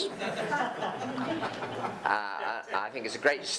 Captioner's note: audience laughing